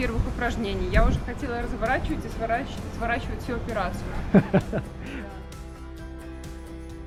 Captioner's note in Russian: смех